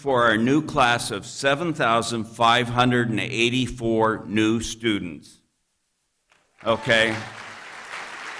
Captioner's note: applause